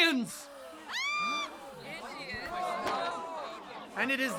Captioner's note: gasps and screams